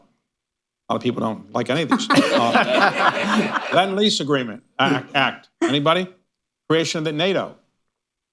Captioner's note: laughter